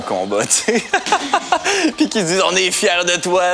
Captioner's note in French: rire